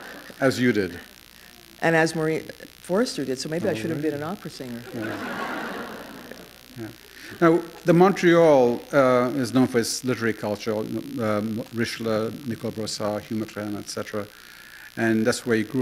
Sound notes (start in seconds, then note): 6.8 laughter